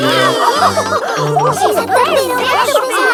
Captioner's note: both straining; giggles; madam gazelle laughing